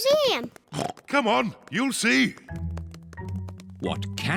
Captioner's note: oinks